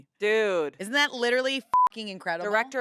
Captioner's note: beep